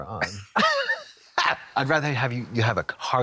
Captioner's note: blonde Women chortle